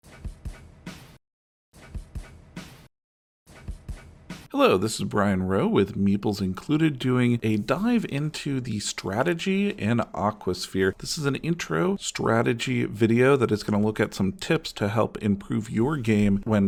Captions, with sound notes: (light music) - [Voiceover] Hello, this is Brian Rowe with Meeples Included doing a dive into the strategy in AquaSphere. This is an intro strategy video that is gonna look at some tips to help improve your game